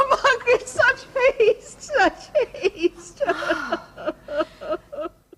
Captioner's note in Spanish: Llora